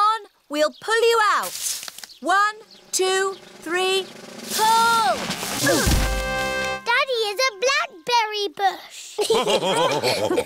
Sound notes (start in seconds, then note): 5.6 all grunt